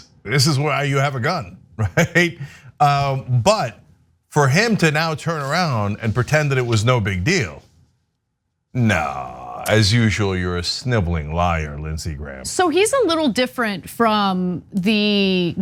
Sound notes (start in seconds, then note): 1.8 laugh